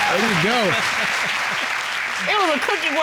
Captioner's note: chuckling; all applauding